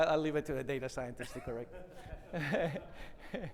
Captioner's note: chuckles